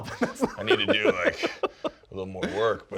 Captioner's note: laughs